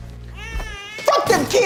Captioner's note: baby cries